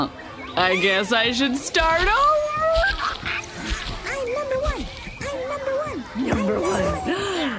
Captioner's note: happily; laughter